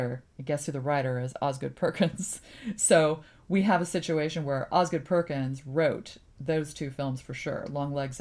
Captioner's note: laughs